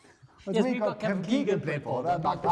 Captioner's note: laughing